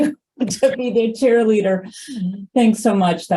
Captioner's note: laughs